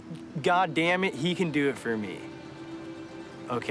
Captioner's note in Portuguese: none